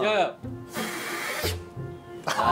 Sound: blowing

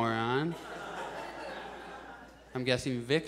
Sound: audience chuckles

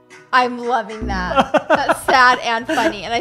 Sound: laughs

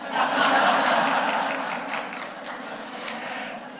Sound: laughter

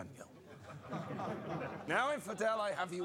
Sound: crowd laughs

